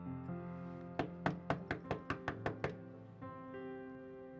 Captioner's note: knock at the door